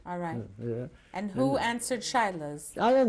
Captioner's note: non-english